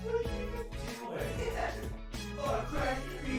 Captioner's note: laughter